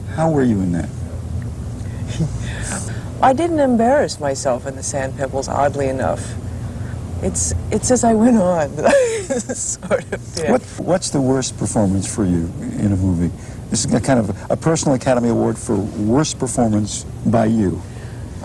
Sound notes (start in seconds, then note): 8.6 laughing